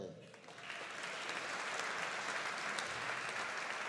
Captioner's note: audience applauding